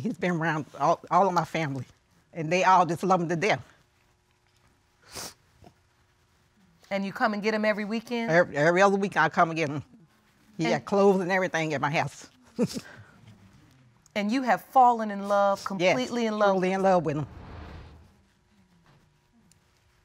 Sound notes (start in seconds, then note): 5.0 sniffles; 13.2 chuckles softly